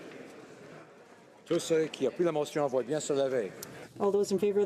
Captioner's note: speaking in french